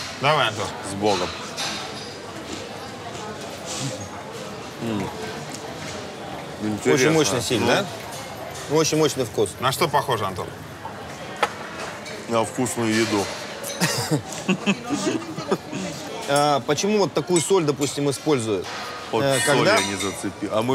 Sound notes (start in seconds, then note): 13.7 chuckle